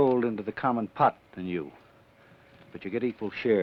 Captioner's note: none